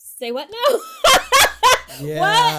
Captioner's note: laughs